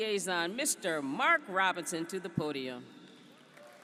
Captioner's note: applause